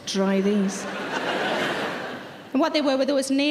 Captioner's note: audience laughs